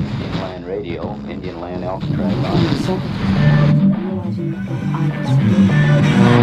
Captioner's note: radio interference